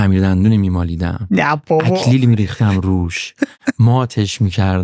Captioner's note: laughs